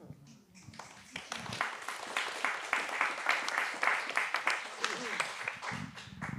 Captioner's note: applause